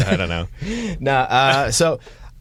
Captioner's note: laughter